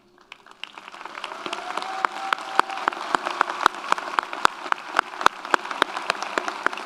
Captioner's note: audience applauds; audience cheers